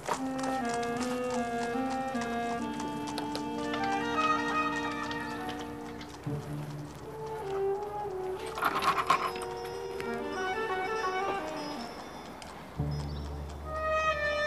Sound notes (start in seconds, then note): 0.2 mysterious music; 9.0 bell rings